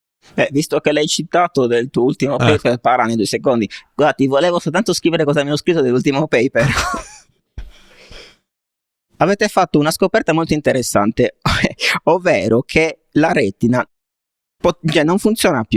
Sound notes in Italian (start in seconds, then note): 6.6 risate